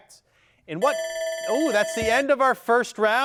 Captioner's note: buzzer beeps